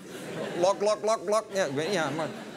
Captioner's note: laugher; drinking noises